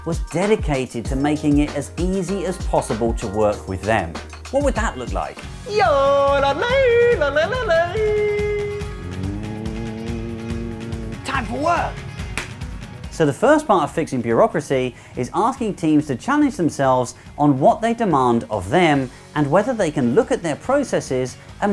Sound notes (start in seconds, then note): 5.8 yodeling; 9.3 humming; 12.2 clap